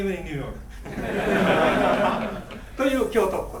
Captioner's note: laughing; speaking in foreign language